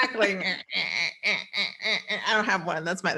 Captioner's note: quacks